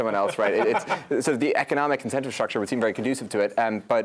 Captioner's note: laugh